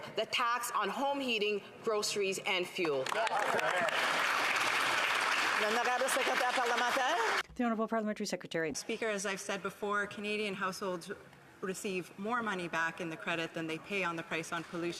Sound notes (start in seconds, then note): 6.8 some Applause